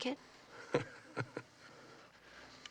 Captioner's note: chuckles